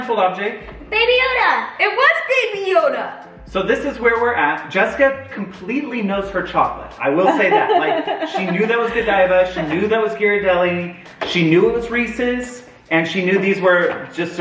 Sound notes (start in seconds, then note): 7.2 laughs